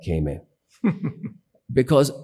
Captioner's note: laughs